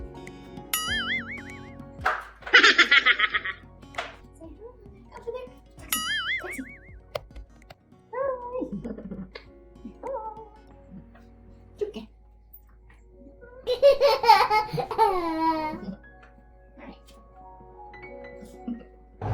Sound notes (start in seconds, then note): 0.3 chipmunk laughing; 0.3 slippers thudding; 0.7 bell dings; 5.9 bell dings; 7.1 camera thudding; 8.8 chuckles; 13.6 baby laughing; 17.8 chuckles